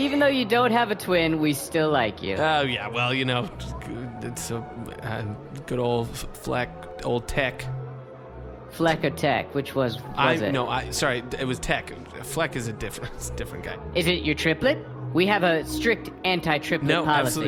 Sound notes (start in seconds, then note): 0.0 Pleck laughs nervously; 4.4 stuttering